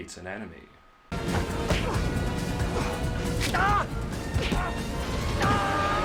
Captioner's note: fight noises